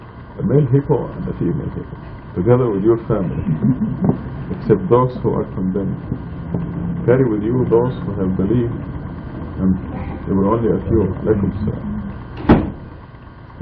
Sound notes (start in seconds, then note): 3.2 laughter